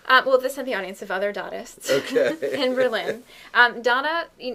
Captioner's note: laughing